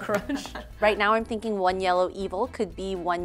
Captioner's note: laugh